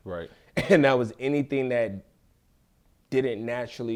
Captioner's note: laughs